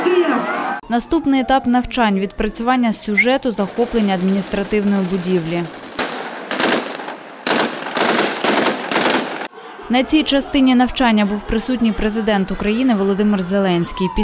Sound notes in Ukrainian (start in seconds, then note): 0.0 кричать; 5.9 лунають постріли